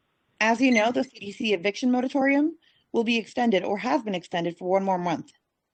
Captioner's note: speaking Spanish